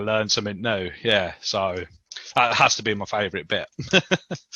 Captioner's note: laughs